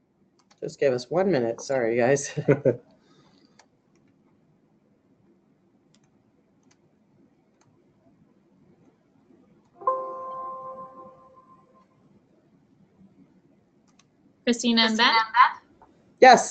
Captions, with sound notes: Just give us one minute, sorry guys. (laughing) (computer alert dinging) - Christina, I'm back.